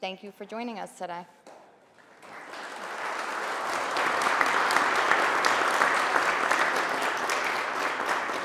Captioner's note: applause